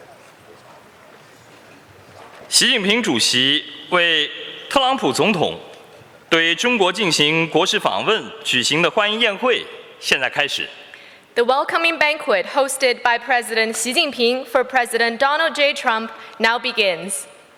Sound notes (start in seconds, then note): 2.0 speaking Mandarin Chinese